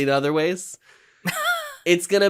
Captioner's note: laughs